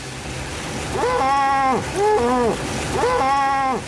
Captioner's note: muffled moaning